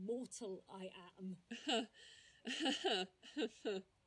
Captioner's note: bella laughs bitterly